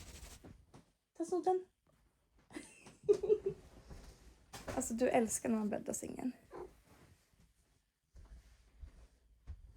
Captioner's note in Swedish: skratt